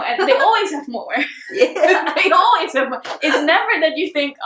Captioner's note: both laughs